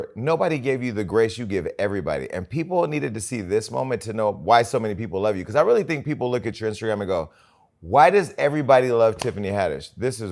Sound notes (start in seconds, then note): none